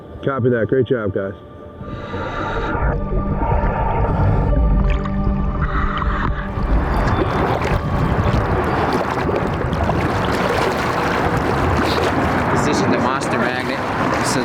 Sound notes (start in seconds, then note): 1.8 underwater breathing; 6.4 water splashing